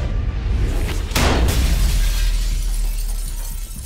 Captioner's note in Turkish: Cam kırılma sesi